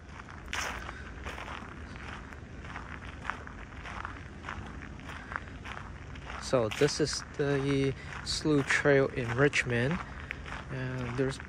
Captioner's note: walking on gravel